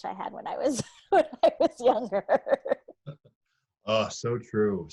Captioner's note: laughs